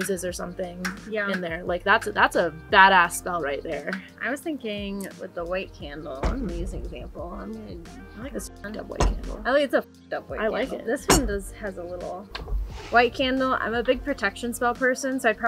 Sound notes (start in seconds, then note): none